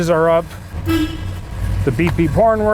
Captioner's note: car honks